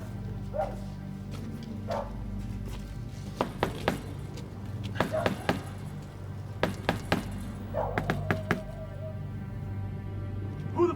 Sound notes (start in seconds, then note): 0.0 ominous music; 3.5 secret door knock